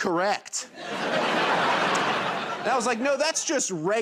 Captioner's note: laughter